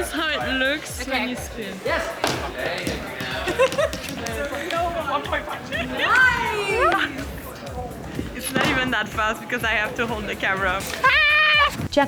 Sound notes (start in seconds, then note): 3.0 giggles